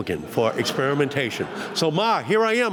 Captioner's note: laughter